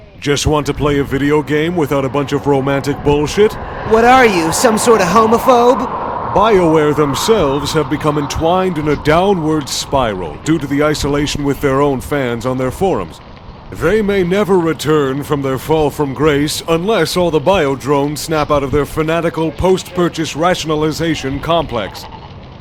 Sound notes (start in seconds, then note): none